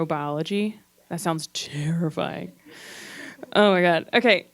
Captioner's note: gasps